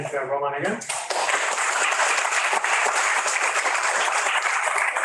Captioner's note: audience claps